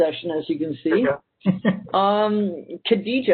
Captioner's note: laughs